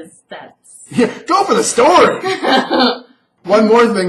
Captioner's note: laughs